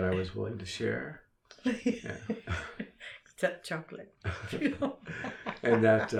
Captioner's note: laughs